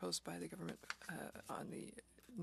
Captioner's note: speaking French